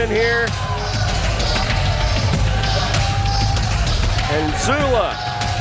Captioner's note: audience cheering